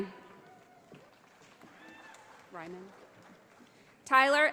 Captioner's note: audience applauding